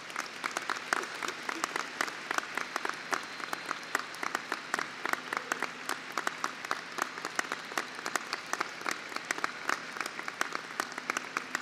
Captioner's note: applause